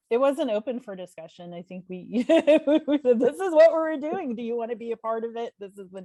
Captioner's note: laughs